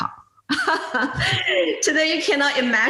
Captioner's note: laughs